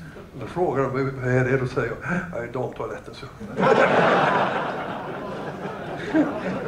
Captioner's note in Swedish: Skratt